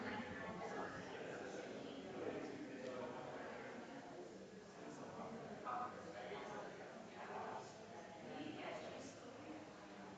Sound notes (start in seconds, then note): 0.0 people chattering distantly continues